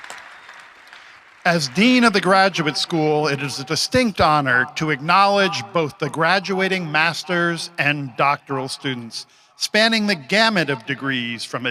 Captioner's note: applause